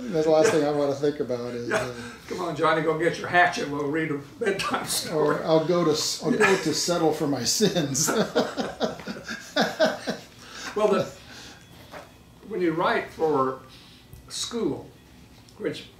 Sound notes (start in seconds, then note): 4.8 laughs; 7.9 laughing